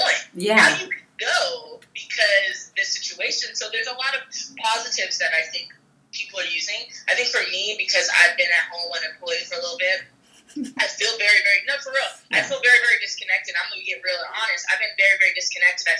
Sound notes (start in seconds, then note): 10.4 giggles